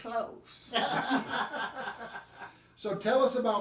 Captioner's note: group laughing